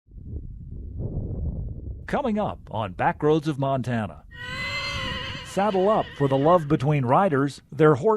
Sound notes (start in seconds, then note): 0.2 wind whooshing; 4.3 horse neighing